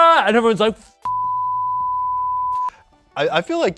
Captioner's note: beep